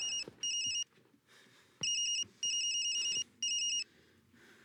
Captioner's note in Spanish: Suena teléfono